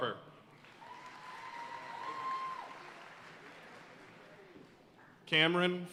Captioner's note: audience cheering and applauding